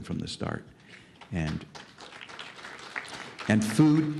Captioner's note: applause